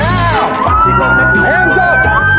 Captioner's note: sirenwail